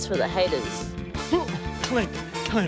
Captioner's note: grunts